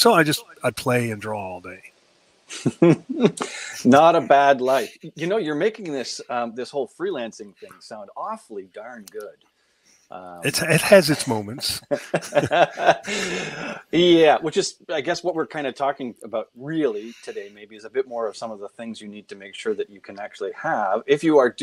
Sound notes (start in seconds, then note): 2.5 chuckling; 10.4 laughing